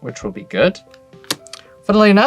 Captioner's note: card slaps